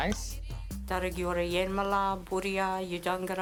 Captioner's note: speaks indigenous language